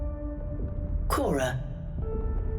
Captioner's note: female computer voice